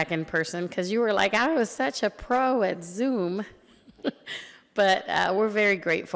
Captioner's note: chuckles